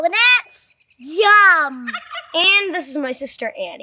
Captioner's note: turkey gobbles